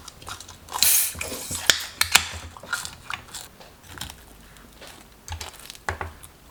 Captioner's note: beer opening sound